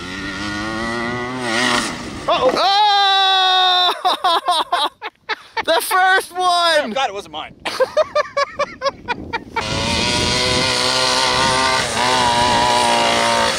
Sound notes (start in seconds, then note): 2.2 yells; 3.5 laughs; 7.7 laughs